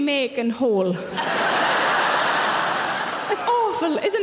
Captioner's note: audience laughing